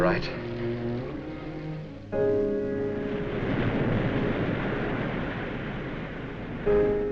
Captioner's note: solemn music; waves crashing